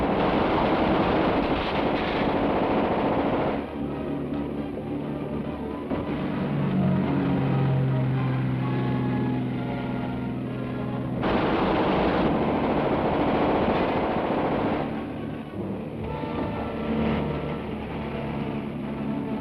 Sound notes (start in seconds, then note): 0.0 boat rumbling; 0.0 gun firing; 5.5 thrilling music; 11.2 gun firing; 16.3 thrilling music